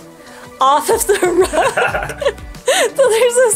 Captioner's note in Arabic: كلاهما يضحك